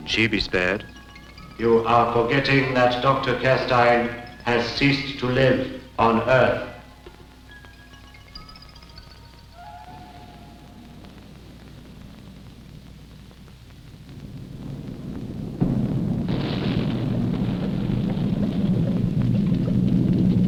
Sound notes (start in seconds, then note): 15.3 explosions rumbling